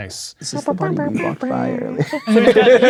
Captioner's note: making trumpet noises